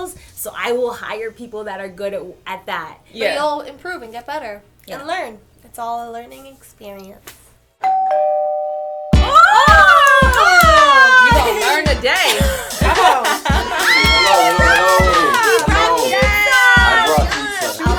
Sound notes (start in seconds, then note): 7.7 girls scream; 7.8 doorbell rings; 13.8 screaming